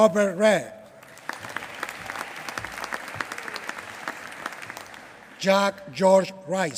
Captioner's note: applause